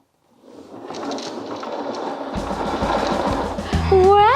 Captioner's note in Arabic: قعقعة العجلات